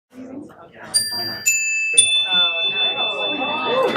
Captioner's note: audience chattering; chimes